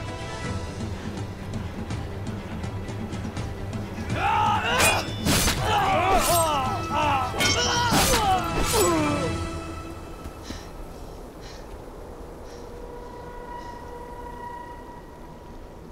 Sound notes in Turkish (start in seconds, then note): 4.7 Çarpışma sesleri; 10.4 Derin nefes sesleri